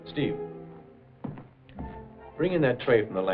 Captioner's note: footsteps